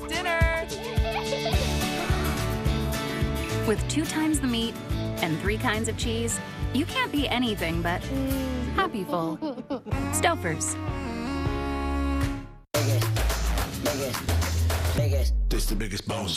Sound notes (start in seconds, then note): 1.8 kid gasps; 9.2 mmmm - kids giggle